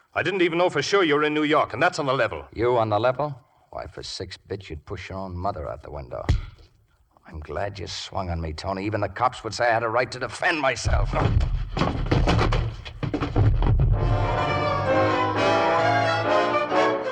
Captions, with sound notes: I didn't even know for sure you were in New York, and that's on the level. You on the level? Why, for six bits, you'd push your own mother out the window. I'm glad you swung on me, Tony. Even the cops would say I had a right to defend myself. (thudding) (dramatic music)